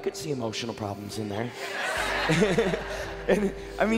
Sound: crowd laughing

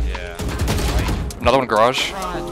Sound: guns firing

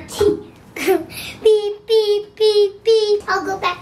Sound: laughs

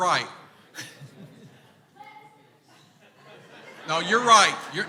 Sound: crowd laughing

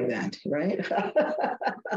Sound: laughing

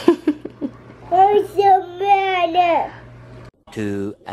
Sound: laughs; babbles; voiceover

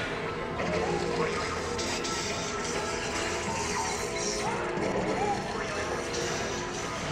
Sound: ride noises including boinging and space music

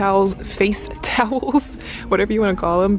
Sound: laughing

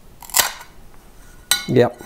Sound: crackling

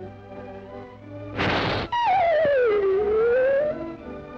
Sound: cat hisses; thoughtful orchestra music

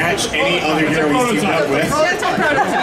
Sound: audience chattering drowns out male announcer

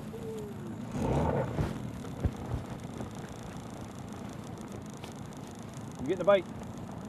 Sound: boat engine revving

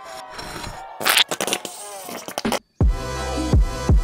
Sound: bottle shaking; bottle squirting; light contemporary music

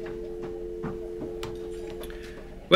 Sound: phone goes dead

